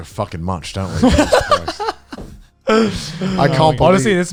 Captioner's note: laughing